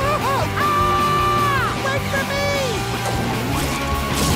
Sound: screaming

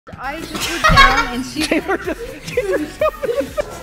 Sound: laughing

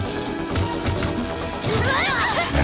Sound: all scream

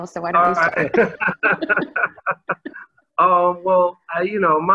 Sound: laughs

